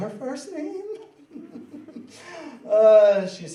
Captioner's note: laughing